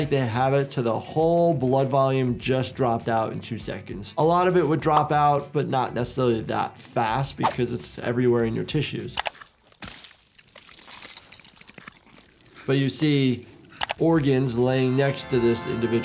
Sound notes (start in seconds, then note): 9.2 mouse clicking; 9.2 monster squishing